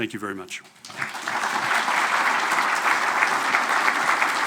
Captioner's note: audience applauding